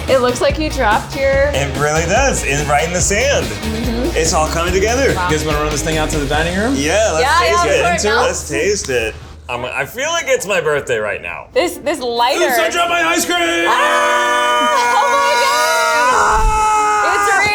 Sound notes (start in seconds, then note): 13.4 both screams